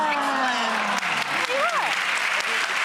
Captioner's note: applause